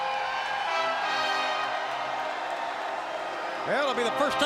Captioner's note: crowd cheering